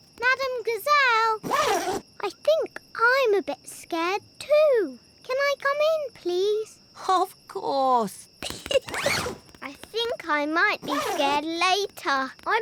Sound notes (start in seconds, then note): 8.4 giggles